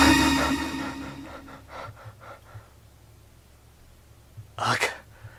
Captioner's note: scientist breathing heavily